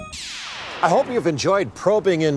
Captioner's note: whooshing